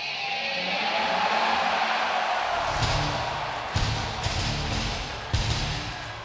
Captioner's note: crowd cheering